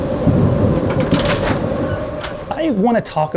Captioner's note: sounds of rain and wind